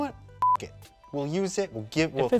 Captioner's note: beep